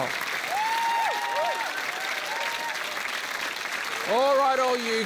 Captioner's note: cheering, applause